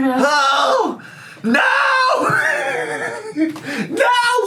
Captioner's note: laughs